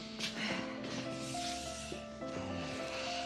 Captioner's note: sighs